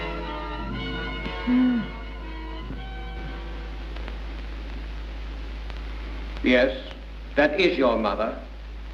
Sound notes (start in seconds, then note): 1.4 mother moans